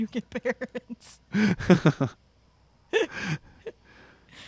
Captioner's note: both laugh